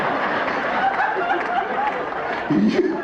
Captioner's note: audience laughing